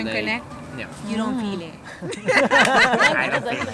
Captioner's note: laughter